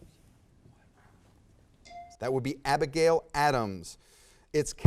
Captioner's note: bell dings